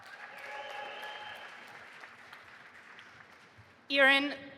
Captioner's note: audience applauding